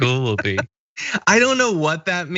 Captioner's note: laugh